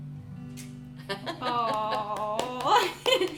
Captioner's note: gentle music; laughing